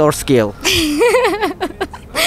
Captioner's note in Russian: смеется